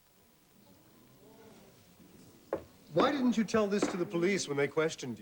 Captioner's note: gallery gasps